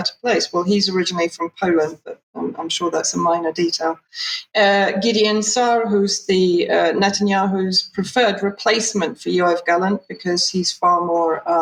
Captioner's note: speaking in Hebrew